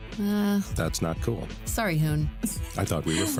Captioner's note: laughs